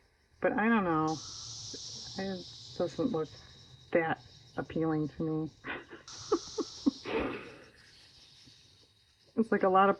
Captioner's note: laughs